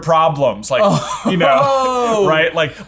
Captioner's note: laughing